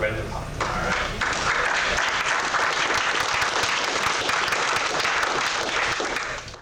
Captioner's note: clapping